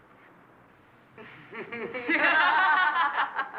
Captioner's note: laughing